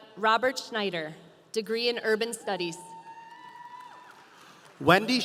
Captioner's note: audience applauding